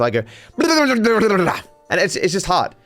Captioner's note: speaks gibberish